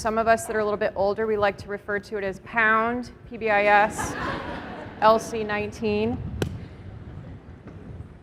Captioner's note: laughter